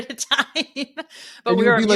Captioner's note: laughing